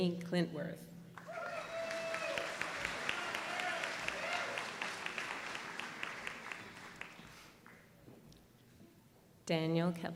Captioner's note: applause